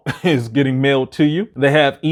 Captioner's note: chuckles